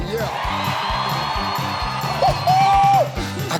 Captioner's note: audience cheering